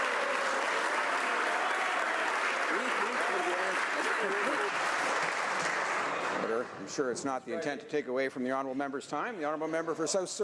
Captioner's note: some Applause